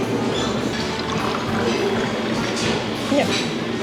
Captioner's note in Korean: 주스 따르는 소리